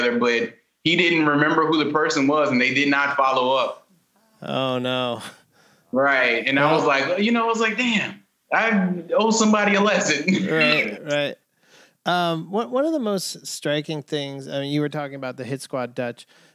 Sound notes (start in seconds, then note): 10.2 laughter